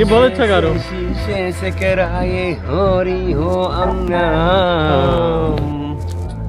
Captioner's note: Foreign language